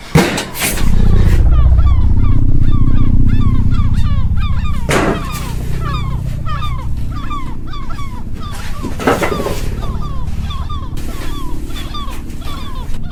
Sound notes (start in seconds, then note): 1.7 air quavering; 5.0 gulls squawking; 10.2 air quavering